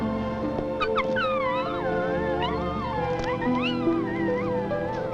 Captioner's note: whimpering